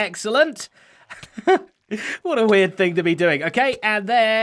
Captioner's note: chuckles